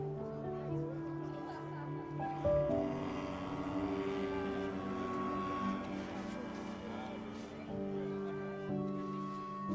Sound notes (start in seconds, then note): 3.0 airplane buzzing